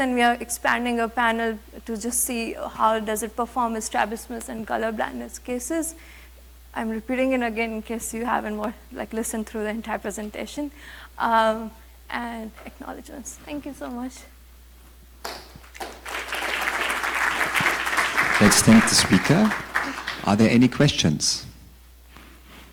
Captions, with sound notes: and we are expanding a panel to just see how does it perform with strabismus and color-blindness cases? And we're putting in, again, in case you haven't listened through the entire presentation. And acknowledgements, thank you so much. (audience applauding) - Let's thank the speaker. Are there any questions?